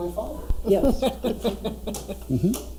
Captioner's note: laughing